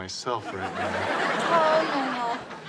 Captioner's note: audience laughs